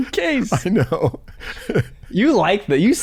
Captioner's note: chuckles